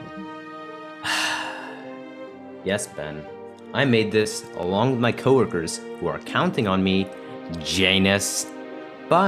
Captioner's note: facepalming sigh